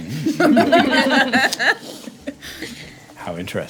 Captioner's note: laughing